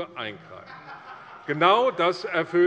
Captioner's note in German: Lachen der Abg